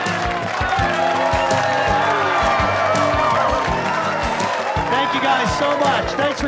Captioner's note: cheers and applause